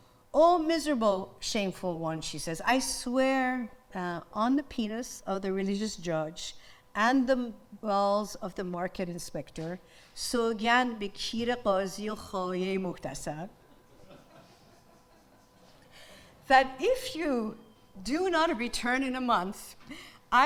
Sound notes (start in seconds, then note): 10.3 speaks in foreign language; 13.9 audience laughs